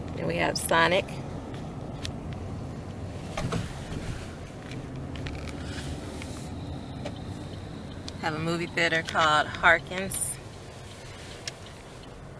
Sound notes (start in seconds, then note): 9.4 car signal